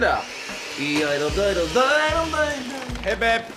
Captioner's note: humming